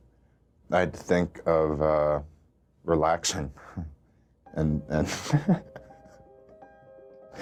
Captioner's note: laughs